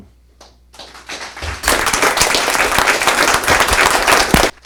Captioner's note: applause